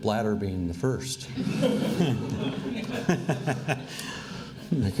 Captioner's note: laughing